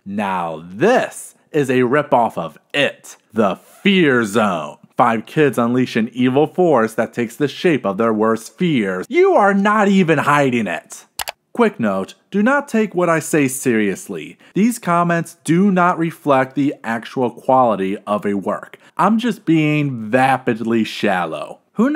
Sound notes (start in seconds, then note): 11.2 click